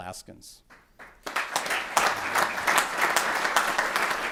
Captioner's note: applause